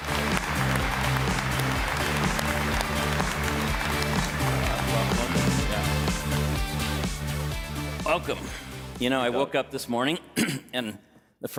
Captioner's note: applause